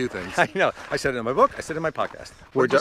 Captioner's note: laughs